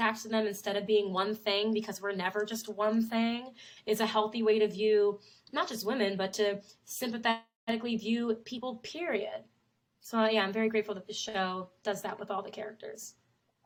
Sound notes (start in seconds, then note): none